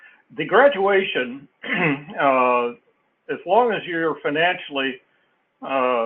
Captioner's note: cough